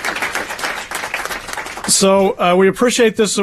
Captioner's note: applause